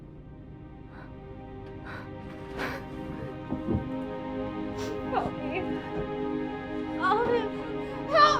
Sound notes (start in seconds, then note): 0.0 somber orchestral music; 1.1 crying